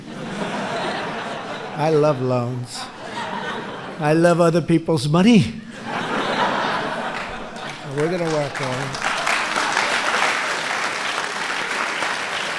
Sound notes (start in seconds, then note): 0.0 laughter; 5.7 laughter and applause; 7.0 applause